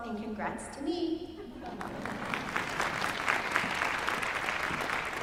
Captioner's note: applause